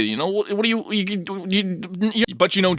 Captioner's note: stammering